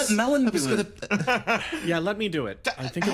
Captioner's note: laugh